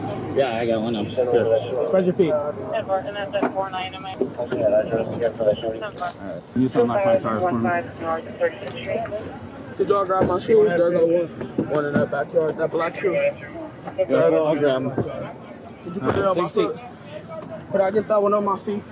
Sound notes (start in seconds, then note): 4.3 radio chatter